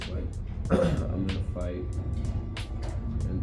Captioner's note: clears throat